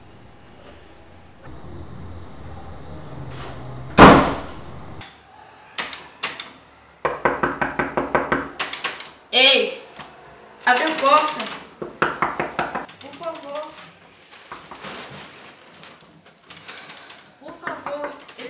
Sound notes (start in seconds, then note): 2.8 door beating